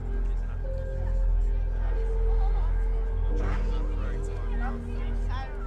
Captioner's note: people chattering faintly